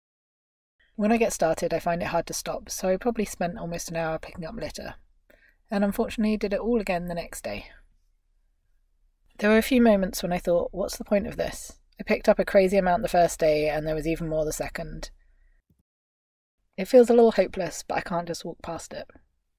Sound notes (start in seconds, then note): none